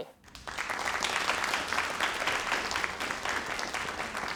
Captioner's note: crowd applauding